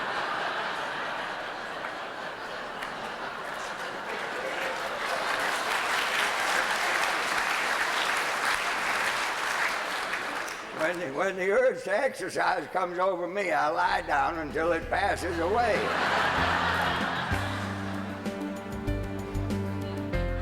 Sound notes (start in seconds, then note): 0.0 laughter; 6.5 applause; 18.1 laughter